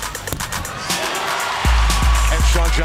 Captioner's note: upbeat music; crowd cheers